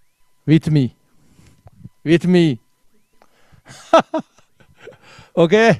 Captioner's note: laughs